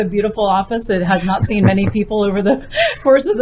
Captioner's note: laughs